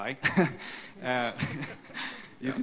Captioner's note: laughter